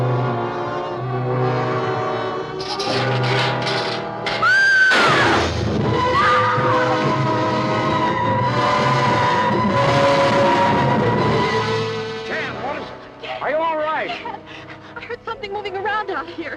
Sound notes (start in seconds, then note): 2.6 clanking softly; 4.1 screaming loudly; 5.0 gun fires; 6.3 suspenseful music